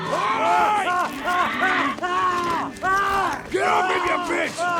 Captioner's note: Riley yelling